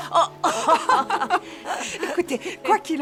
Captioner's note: laughing